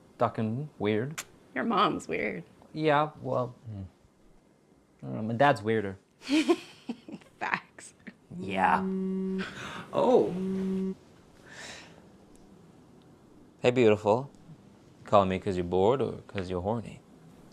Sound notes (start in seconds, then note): 6.2 laughter; 10.0 phone buzzes